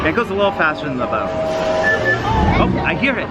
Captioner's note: train horn blowing